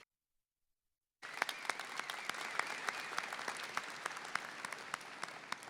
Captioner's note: everyone applauding